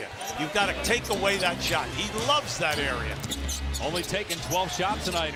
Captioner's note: cheers and applause